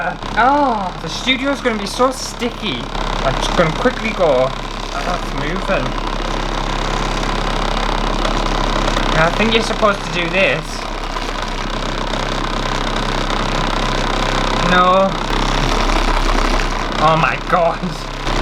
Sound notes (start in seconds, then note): 6.1 loud Motor Sounds; 10.6 loud Motor Sounds